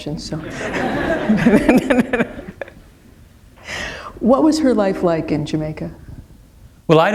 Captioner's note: laughter